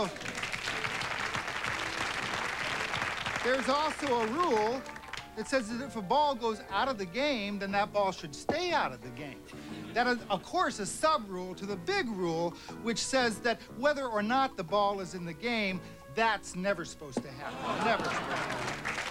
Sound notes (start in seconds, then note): 0.0 applause